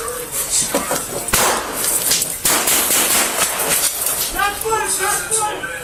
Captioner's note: more gun shots fired